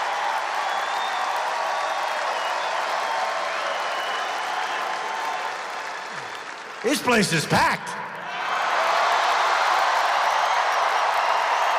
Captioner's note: applause